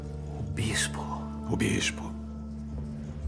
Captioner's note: whispers